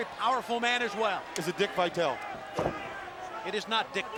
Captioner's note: crowd clamoring